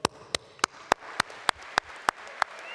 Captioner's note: applause